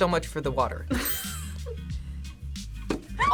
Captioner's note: laughs